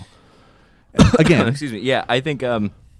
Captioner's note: coughs